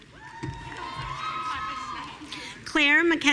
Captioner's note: audience cheering